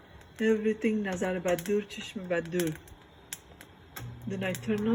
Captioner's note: speaking foreign language